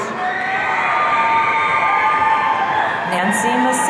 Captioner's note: audience cheering